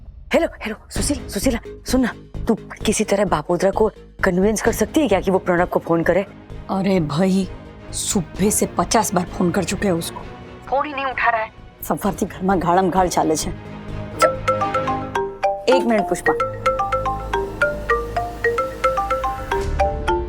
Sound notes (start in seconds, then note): 15.4 mobile phone ringing